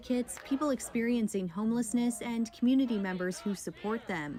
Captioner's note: chanting